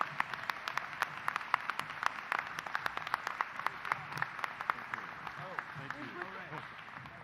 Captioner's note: applause